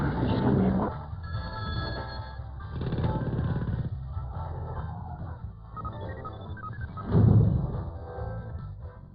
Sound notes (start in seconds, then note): 1.2 phone ringing; 5.6 electronic beeping